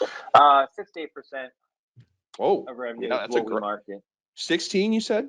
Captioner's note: speaking faintly